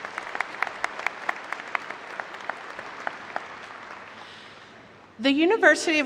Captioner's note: applause